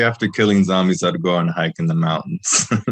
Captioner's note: laughs